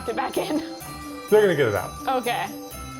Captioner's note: laughs